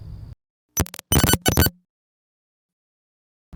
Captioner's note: glitch sound